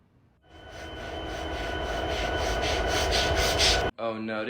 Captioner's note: ANGRY SD70ACe ENGINE SOUNDS